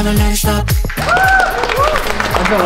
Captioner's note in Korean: 박수갈채